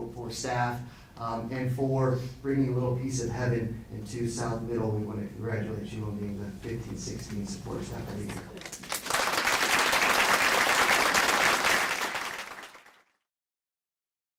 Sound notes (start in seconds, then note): 8.2 audience clapping